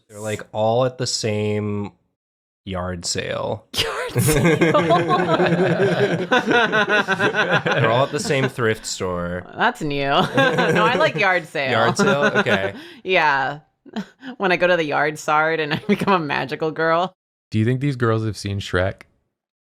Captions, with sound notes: They're all at the same... ...yard sale. *laughter* They're all at the same thrift store. That's new, *laughs* no, I like yard sale. Yard sale? Okay. Yeah. When I go to the "yard sard" and become a magical girl. Do you think these girls have seen Shrek?